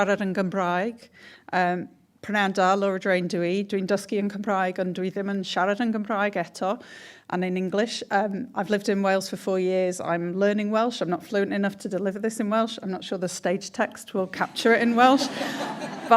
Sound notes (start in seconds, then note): 2.2 she speaks in welsh; 15.1 laughter